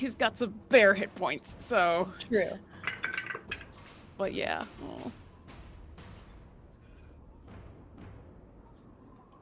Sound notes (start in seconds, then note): 2.8 dice rolls